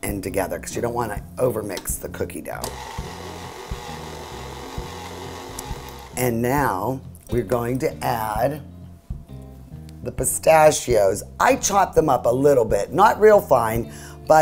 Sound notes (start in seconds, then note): 2.6 mixer whirs